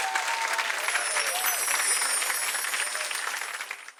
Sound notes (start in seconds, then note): 0.7 chimes